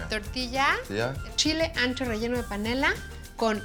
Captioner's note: speaking Spanish